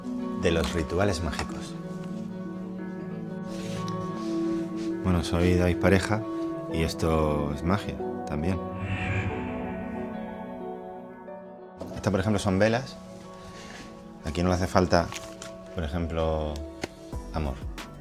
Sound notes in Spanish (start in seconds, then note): none